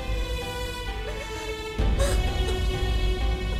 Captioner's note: Sobbing